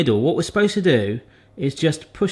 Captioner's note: none